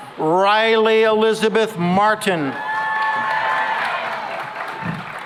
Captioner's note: cheering and applause